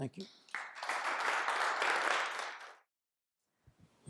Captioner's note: applause